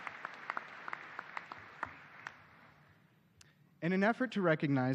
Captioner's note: applause